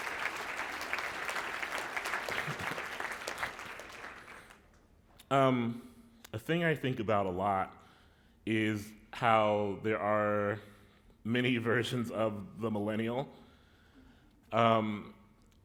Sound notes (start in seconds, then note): 0.2 laughter; 3.2 applause